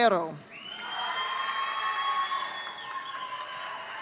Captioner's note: audience cheering